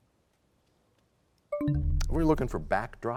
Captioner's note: bell chimes, time expires